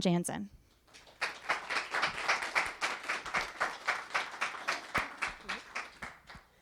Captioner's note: audience applause